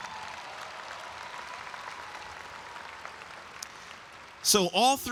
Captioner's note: audience applauds and cheers